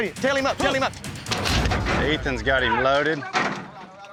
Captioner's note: gates clanking, closing